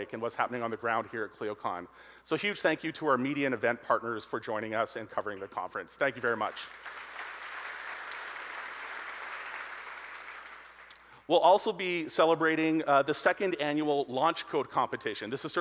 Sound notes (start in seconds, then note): 6.4 audience applauding